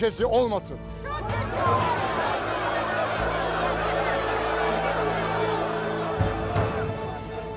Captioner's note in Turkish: Kalabalık bağrışma sesleri